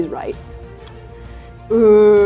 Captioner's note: inhaling